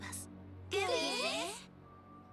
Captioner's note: frightened murmurs